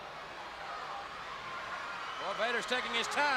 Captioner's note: crowd chatters